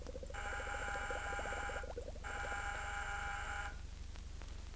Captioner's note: intercom buzzes twice